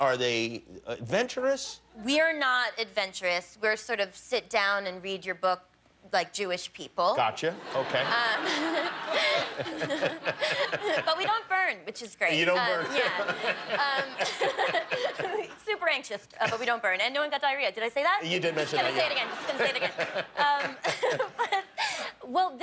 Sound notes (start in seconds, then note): 7.6 laughter